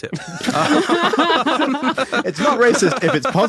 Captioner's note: group laughing